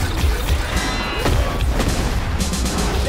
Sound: explosions

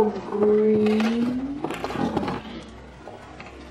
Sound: popping

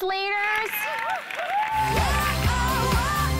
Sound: girls cheering

